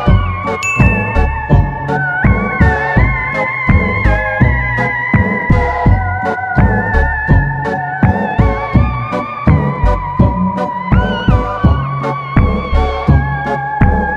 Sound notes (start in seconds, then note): 0.6 bell rings